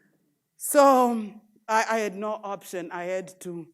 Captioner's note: none